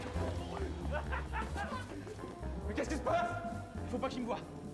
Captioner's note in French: rires au loin